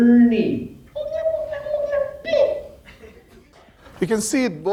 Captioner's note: baby gibbering